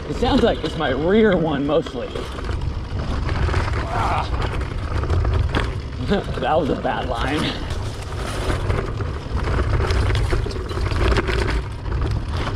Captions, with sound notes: It sounds like it's my rear one mostly. (grunts) That was a bad line.